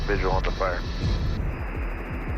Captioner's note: static hissing